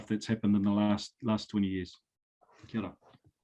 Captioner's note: speaking foreign language